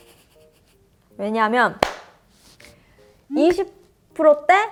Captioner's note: clap